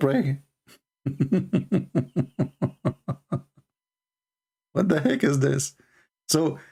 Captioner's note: Ketawa